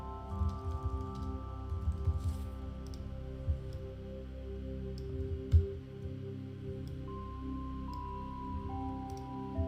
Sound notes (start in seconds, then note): 0.0 gentle calming music continues; 5.0 keyboard faintly clacking